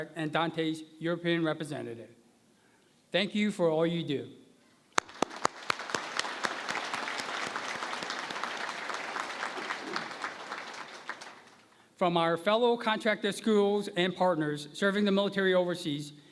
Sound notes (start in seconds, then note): 4.9 applause